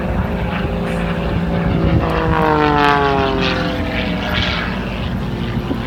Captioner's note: engine noise